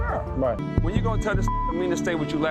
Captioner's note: beep